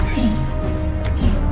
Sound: grunting

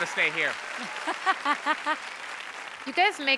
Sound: laughing

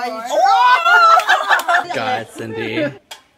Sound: laughter

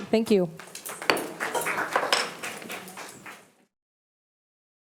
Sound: audience applauding

